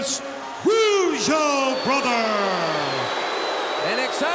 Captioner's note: crowd cheers